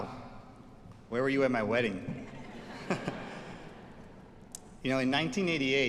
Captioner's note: chuckles